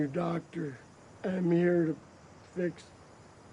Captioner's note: slurred